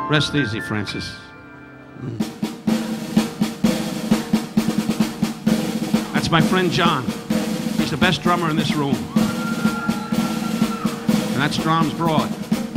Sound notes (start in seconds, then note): 1.9 upbeat drumming music; 8.4 audience cheering